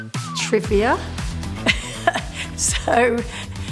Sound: laughs

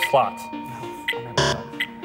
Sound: bell dings

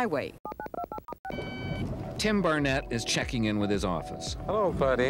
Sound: electronic beeps

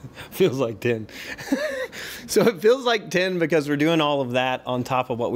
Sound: laughs

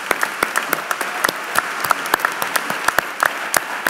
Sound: applause

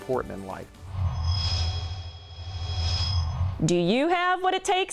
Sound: sound Effects

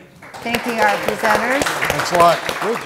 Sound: audience clapping

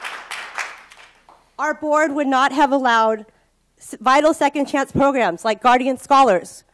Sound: applause

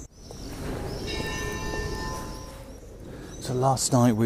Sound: bell Chime

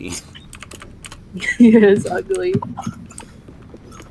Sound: laughs

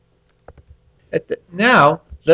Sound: pause

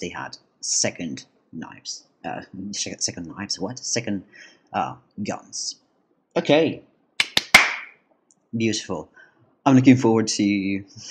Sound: clap clap clap

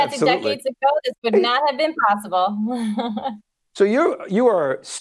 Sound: laughs

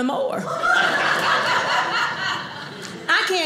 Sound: audience laughing

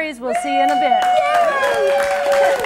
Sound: applause

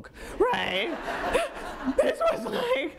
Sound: audience laughing

